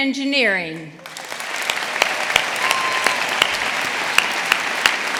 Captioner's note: audience applauding